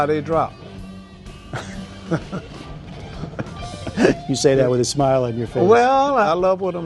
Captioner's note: laughter